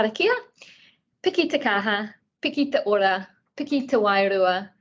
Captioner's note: speaking in te reo Māori